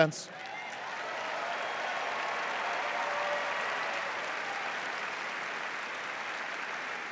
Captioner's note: cheers and applause